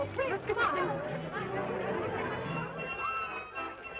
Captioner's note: crowd murmurs